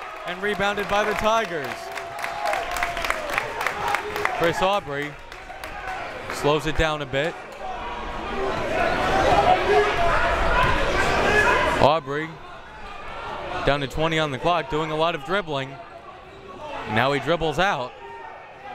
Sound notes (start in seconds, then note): 2.0 crowd members clapping; 7.5 crowd members shouting